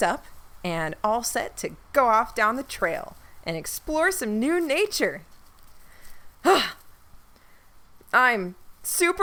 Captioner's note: huffs out a breath, still uncertain